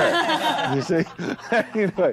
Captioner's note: all laughing